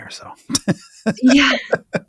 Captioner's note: laughs